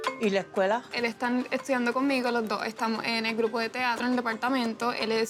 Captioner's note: speaking Spanish